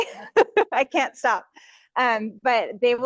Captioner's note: laughing